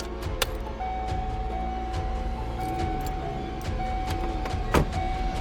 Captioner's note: car dinging